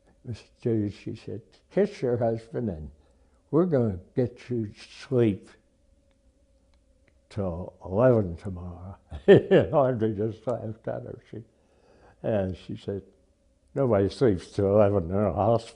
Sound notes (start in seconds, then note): 10.7 laughs